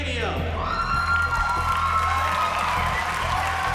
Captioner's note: cheering and applause